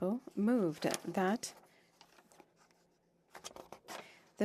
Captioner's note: speaking French